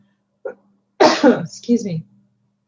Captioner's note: sneezes